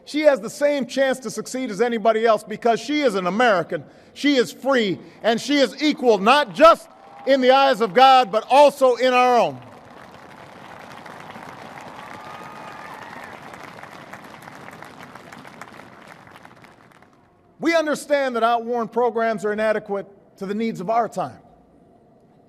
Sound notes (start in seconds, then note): 13.6 applause